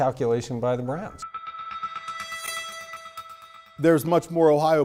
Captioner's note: gentle chiming